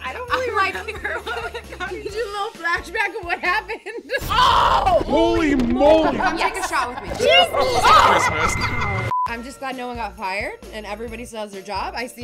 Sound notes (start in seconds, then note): 4.0 laughs; 8.6 short beep